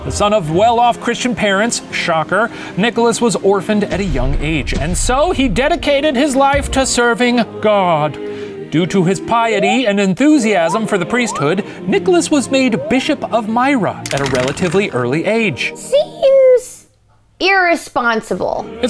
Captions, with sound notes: The son of well-off Christian parents, shocker, Nicholas was orphaned at a young age. (booming) And so he dedicated his life to serving God. (slide whistle) Due to his piety and enthusiasm for the priesthood, Nicholas was made Bishop of Myra at a relatively early age. - Seems irresponsible.